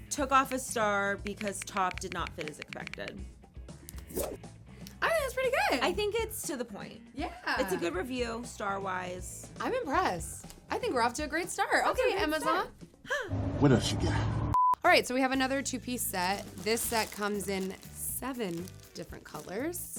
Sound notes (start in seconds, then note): 14.5 screen beeps